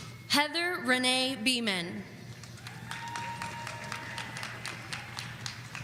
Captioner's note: audience applauding